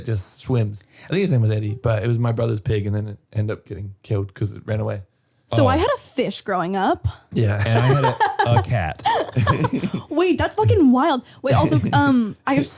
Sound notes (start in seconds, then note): 7.3 laughing